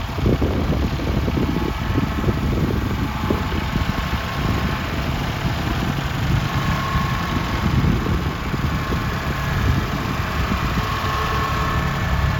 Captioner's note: engine revving